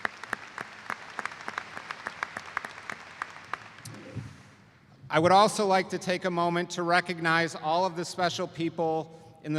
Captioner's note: applause